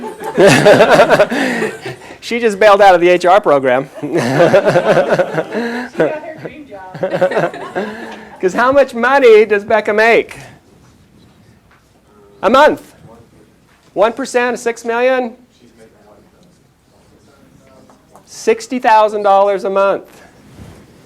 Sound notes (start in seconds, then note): 0.0 chuckles; 3.9 laughter; 6.9 chuckles